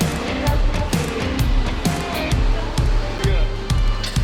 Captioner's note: upbeat rock music; machines drone